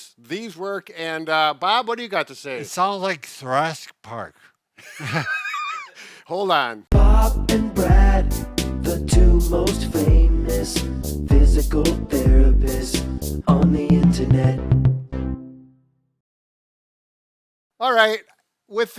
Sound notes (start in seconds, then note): 4.8 both laughing; 16.5 upbeat synth music